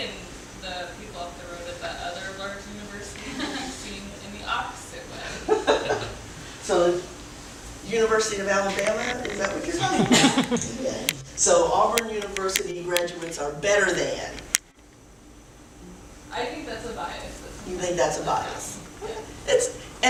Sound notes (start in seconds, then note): 9.8 laughter